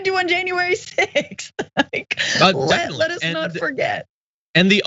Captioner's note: laugh